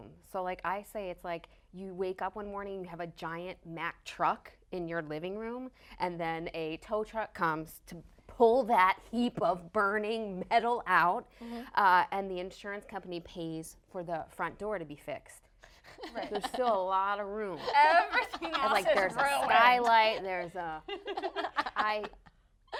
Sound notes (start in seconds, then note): 15.9 laughing; 20.6 laughing